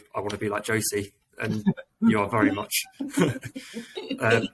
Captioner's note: laughing